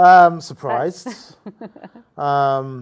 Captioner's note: laughs